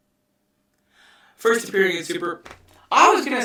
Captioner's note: double voice